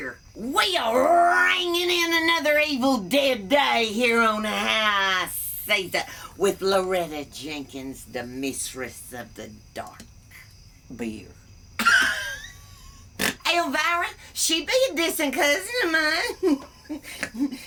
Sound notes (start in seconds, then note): 11.8 laughs